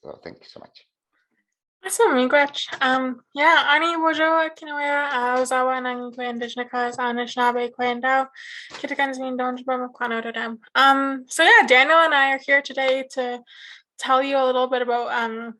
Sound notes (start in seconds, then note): 5.1 speaks in Anishinaabe language